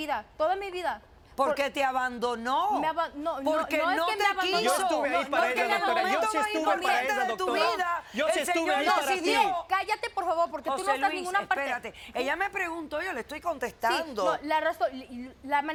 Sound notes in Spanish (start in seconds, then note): 8.2 Hablan al unísono